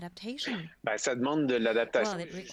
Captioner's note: speaking French